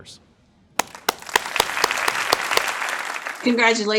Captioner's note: crowd applauding